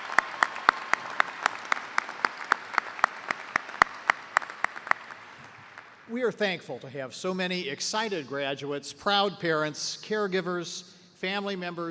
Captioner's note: cheers and applause